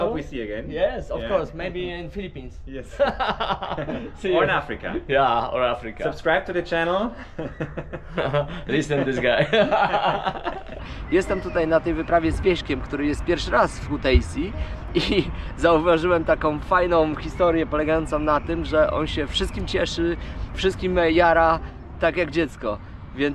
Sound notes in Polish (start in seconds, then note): 7.1 śmiech